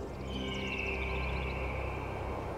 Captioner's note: eagle whistles